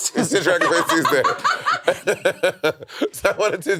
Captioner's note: all laughing